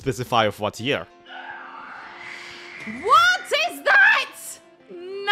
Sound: Shrieker shrieks

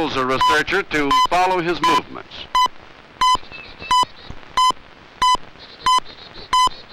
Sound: beeping

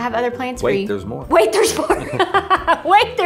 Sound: laughs

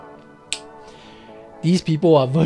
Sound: finger snap

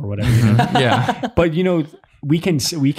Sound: laughs

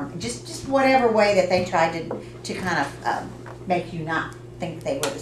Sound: none

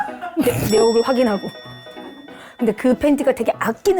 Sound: sobbing

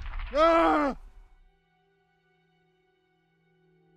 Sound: guns firing; Jonathan screaming; gentle music

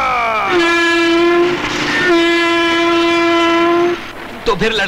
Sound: train horn blares

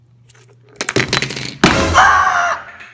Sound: dramatic sound

